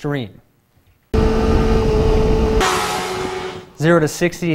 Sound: motorbike sounds

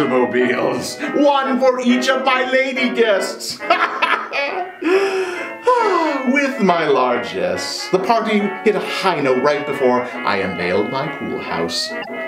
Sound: laugh

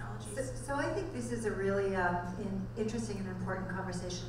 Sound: voiceover

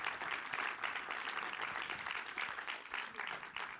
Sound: applause

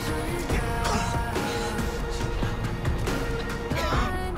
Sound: coughing

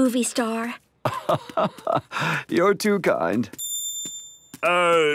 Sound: laugh

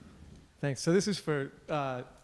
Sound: voiceover

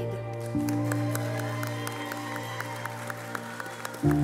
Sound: applause

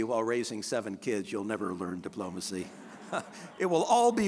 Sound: all chuckling

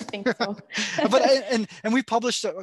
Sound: laughing

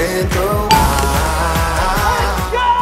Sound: chime dings

